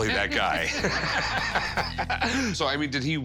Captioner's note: laughter